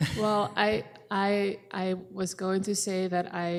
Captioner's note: chuckling